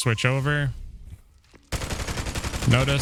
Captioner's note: gunfire